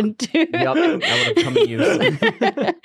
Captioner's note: laughs